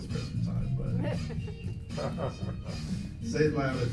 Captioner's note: laughs